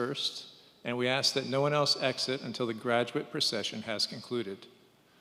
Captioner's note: none